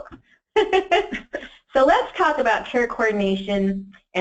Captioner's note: laughs